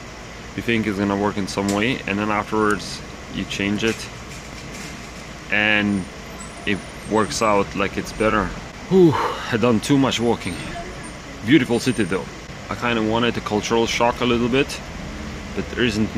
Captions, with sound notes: You think is gonna work in some way and then afterwards you change it and It works out like it's better. [exhales] I done too much walking. Beautiful City though. I kind of wanted the cultural shock a little bit, but there isn't much.